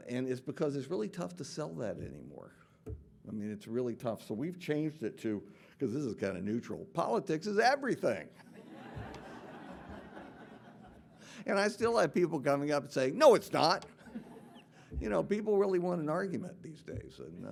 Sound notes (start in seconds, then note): 8.4 audience laughing